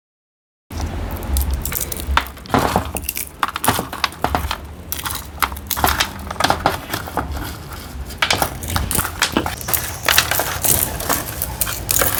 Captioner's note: crackling sounds of the husk being removed